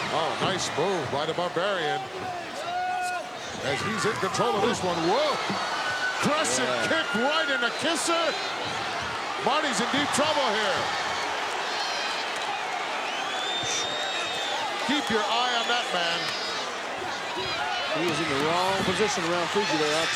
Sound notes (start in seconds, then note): 9.7 applause